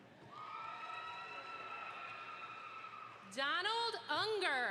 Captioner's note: audience applauds